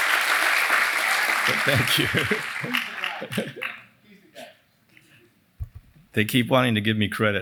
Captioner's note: applause